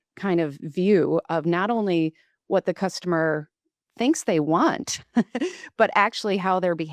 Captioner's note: laughs